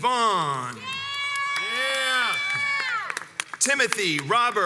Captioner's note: crowds cheers and applauds